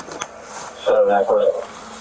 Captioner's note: radio chatter